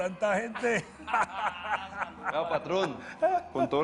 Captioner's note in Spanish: Risas